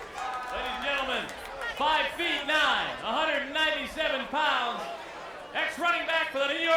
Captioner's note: applause